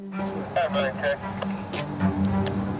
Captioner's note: chatter on radio; dramatic string music